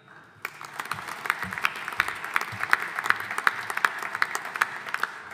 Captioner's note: audience applauding